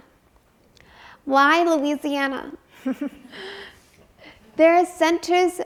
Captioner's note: chuckles